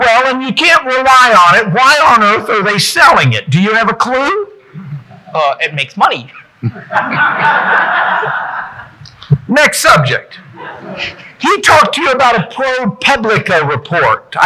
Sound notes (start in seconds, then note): 6.6 audience laughing